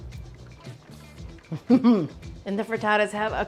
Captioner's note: Julia laughing